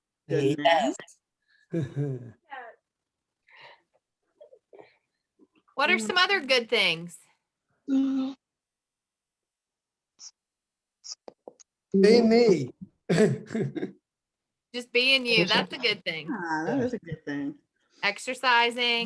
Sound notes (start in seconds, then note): 13.1 chuckle